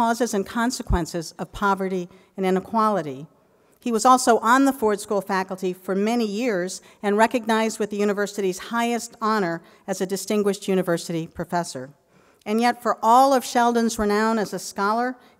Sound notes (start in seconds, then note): none